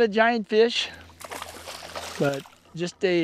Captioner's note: splashing